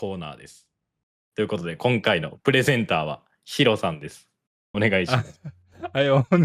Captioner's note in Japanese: 笑い